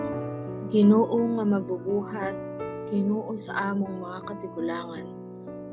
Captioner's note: narrator speaking in Cebuano